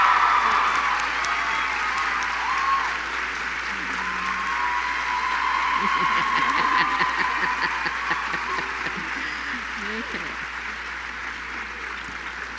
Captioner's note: applause